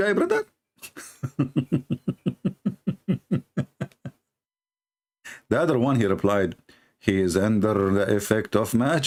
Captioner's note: Ketawa